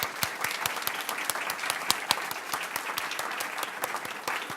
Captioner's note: audience applauds